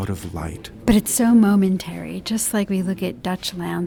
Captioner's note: voiceover